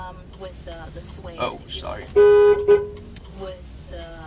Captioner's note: horn Honking